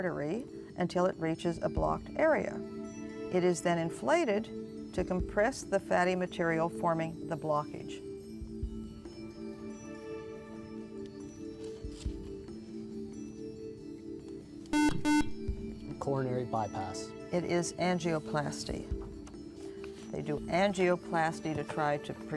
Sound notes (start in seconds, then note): 8.3 whispering; 14.7 buzzer